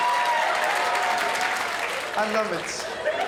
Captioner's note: crowd laughs